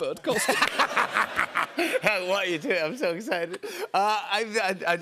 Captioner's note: laughter